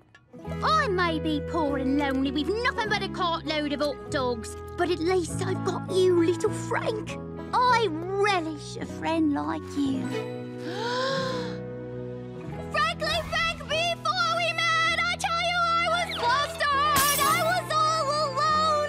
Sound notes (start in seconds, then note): 10.6 deep breath; 13.6 singing badly